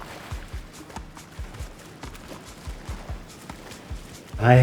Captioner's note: water splashing